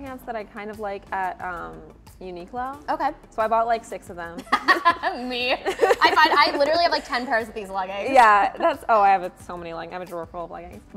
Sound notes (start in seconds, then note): 4.4 both chuckle